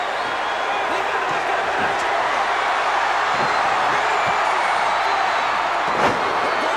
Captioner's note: crowd's roar drowns out commentary